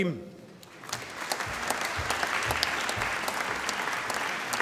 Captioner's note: applause